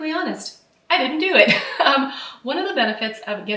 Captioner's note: laughs